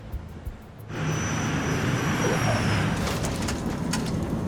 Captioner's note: jet whooshing